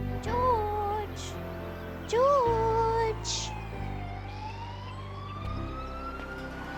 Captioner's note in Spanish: sirenas aullando